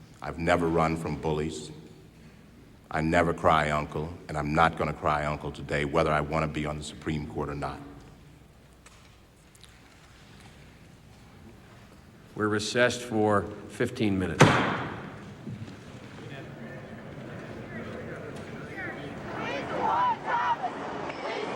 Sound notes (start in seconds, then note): 14.3 gavel bangs; 16.3 crowd chattering; 19.7 crowd